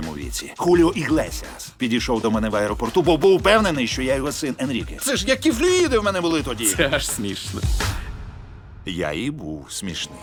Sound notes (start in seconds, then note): 6.4 chuckles